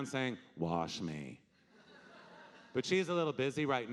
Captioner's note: audience laughing